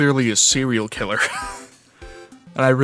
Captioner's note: wheeze